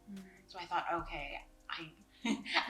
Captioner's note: laughs